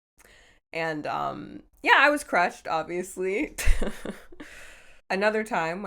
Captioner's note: chuckles